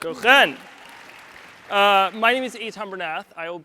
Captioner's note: audience applauds